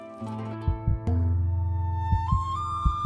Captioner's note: heart flutters